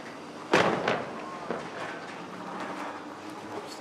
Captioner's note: clanging